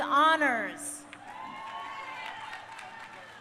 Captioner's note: crowd cheering